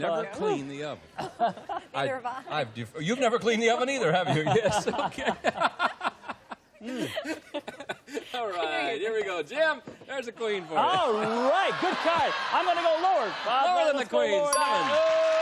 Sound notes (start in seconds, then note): 6.2 laughter